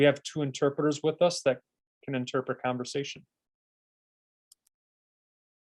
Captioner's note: silence